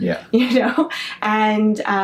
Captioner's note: chuckles